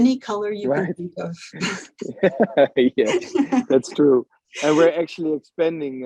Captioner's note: both laugh